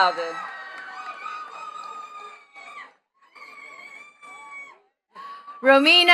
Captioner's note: attendees cheering and clapping